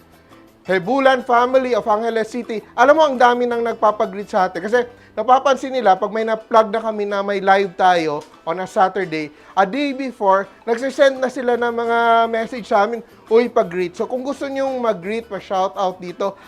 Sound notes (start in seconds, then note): none